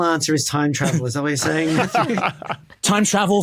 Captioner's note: group laughing